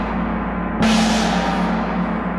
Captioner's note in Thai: เสียงฆ้อง